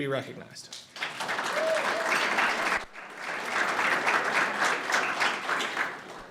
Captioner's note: audience cheers and applauds